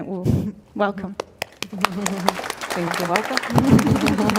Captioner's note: clapping